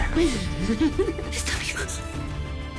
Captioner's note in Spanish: Risas